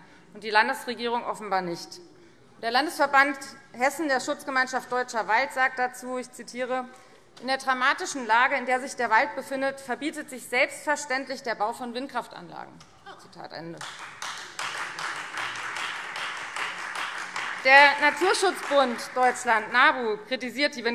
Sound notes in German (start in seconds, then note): 13.8 Beifall Freie Demokraten